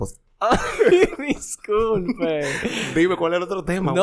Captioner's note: laughs